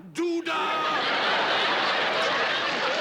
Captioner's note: laughter